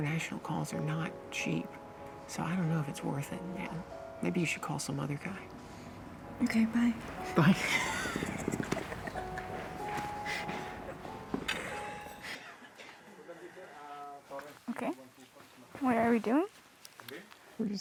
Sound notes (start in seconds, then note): 9.1 laughing